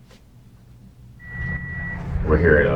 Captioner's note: car Beeping